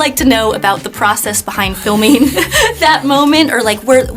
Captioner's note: chuckles